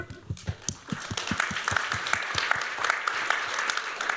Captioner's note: applause